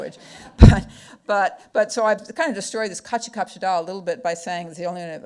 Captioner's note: speaking foreign language